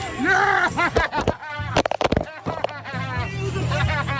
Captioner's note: man laughing